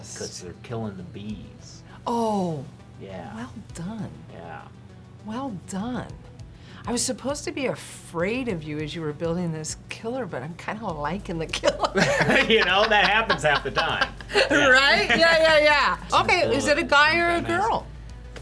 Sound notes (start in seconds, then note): 11.6 laughs; 11.7 chuckles